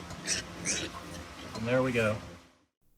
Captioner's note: pig oinks